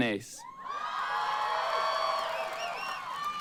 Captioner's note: applause